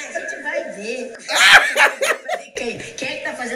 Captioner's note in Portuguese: gargalha